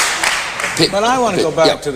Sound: applause

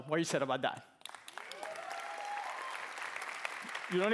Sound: cheering

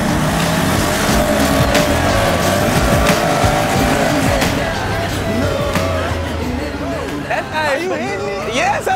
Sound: engines revving

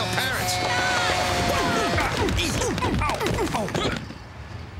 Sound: grunting; horn honking

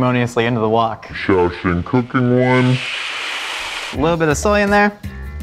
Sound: talking slowly

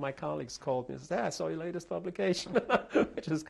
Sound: laughs

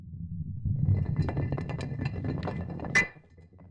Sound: rock rolling

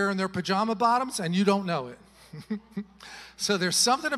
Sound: chuckles

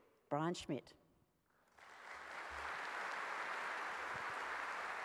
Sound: applause

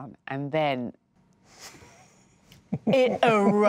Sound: laughing

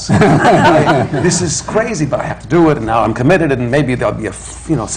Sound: laughter

